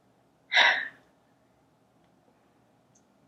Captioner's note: sighs